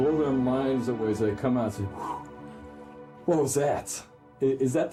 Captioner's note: exhales